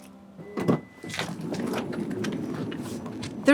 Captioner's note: door whirring